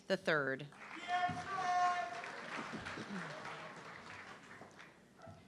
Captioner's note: audience clapping